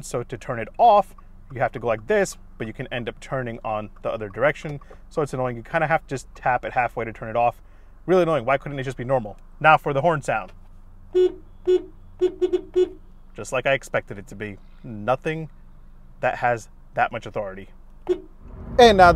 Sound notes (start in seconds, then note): 11.0 car horn beeping; 18.0 car horn beeping